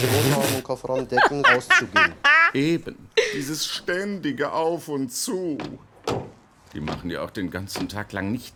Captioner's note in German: lacht